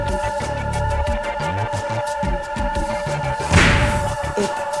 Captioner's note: muted reading